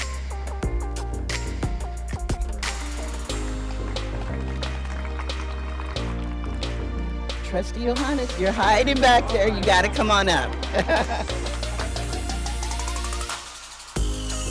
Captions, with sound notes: [MID-TEMPO MUSIC] [APPLAUSE] Trustee Yohannes, you're hiding back there. You got to come on up. [MID-TEMPO MUSIC]